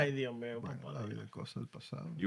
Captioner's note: speaking Spanish